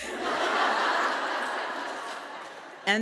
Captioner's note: audience laughing